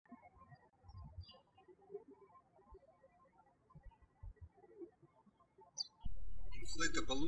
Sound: birds chirping

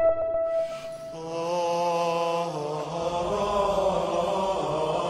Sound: chanting

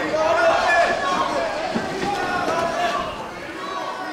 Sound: indistinct shouting

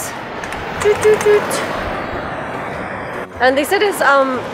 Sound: mimics beeping

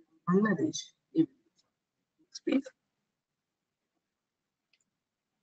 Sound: audio static

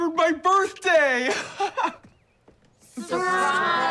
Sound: laughs

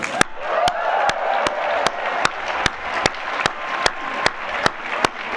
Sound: applause

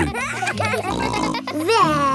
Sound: kids giggling

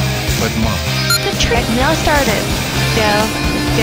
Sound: beep

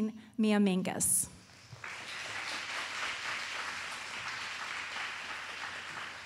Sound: applause

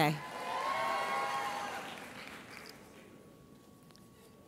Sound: audience cheers

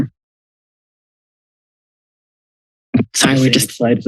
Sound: silence

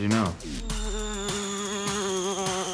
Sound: buzzing

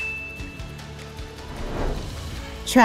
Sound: bell Rings

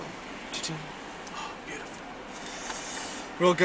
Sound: gasps

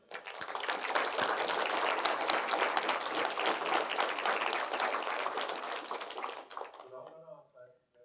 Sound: applause

